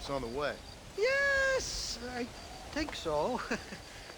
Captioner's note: laugh